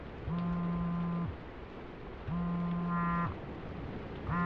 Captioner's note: phone continues to buzz